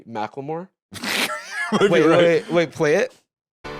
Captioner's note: laughs